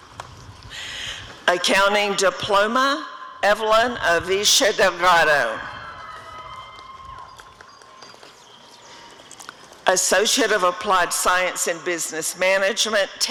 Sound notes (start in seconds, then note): 6.4 applause and cheering